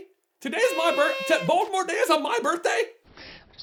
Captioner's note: party horns